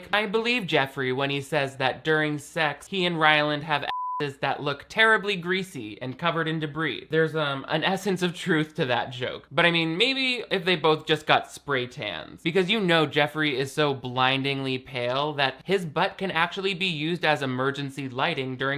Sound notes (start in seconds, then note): 3.8 beep